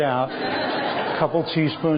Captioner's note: laughter